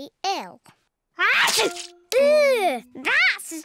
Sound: sneezes

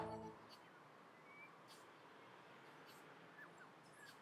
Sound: birds tweet

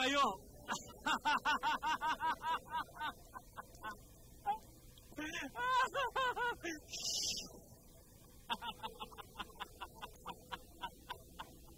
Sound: laughs

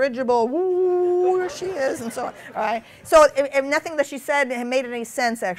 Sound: laughter

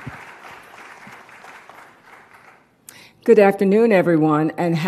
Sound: applause

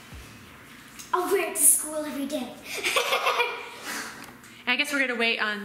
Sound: laughs

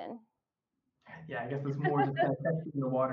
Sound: chuckles

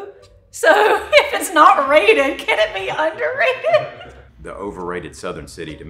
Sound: laughs

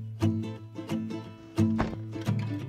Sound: door thumps

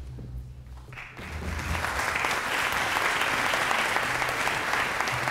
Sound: applause

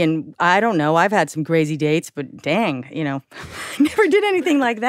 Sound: chuckles

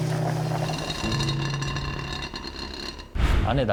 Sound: rattling

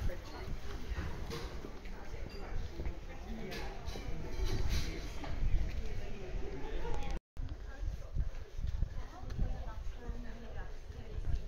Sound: passers by talking

